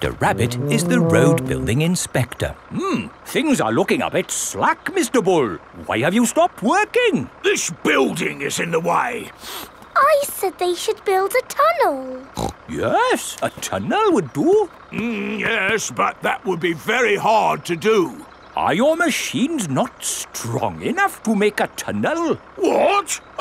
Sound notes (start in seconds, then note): 9.4 sniffs; 12.3 snorts